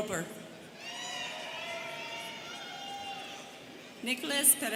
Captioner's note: students cheering